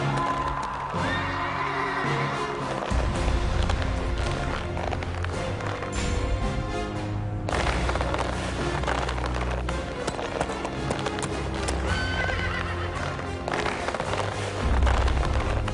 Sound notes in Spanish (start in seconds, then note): 2.1 Relinchos; 11.8 Relinchos